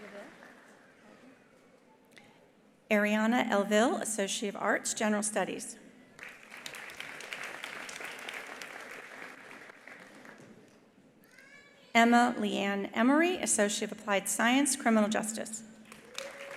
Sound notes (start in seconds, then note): 6.2 attendees applauding; 15.8 attendees applauding